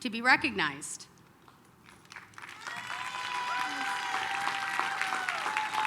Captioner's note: applause, cheering